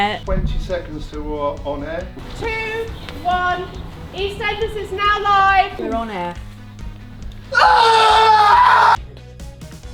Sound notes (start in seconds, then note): 7.5 martin screams